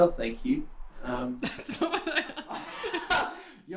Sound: laughing; laughs

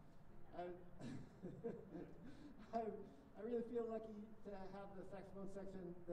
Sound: chuckles

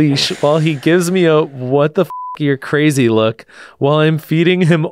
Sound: beep

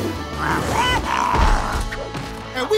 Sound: grunting

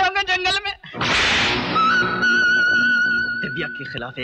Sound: slapping

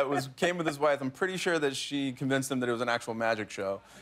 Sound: laughter

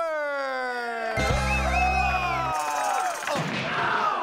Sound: audience cheering and whistling

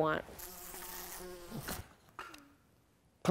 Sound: fly buzzing; buzzing stops

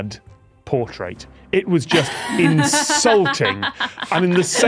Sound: laughs

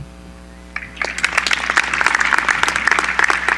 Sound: applause

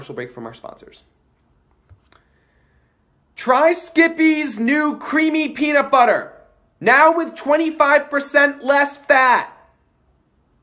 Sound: yelling

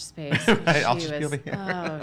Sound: chuckles

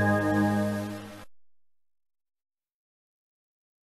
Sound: silence

